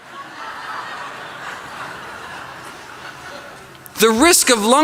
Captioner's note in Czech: Smích